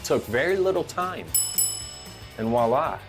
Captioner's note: bell rings